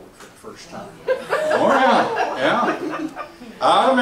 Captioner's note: laughs